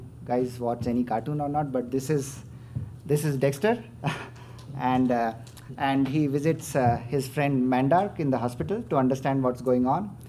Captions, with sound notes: guys watch any cartoons or not, but this is this is Dexter [chuckles] and he visits his friend Mandark in the hospital to understand what's going on.